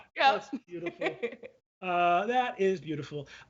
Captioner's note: laughs